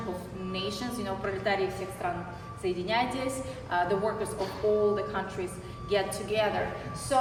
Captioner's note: non-english speech